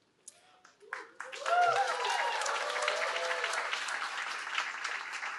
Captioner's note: applause